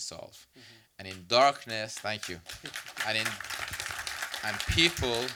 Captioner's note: applause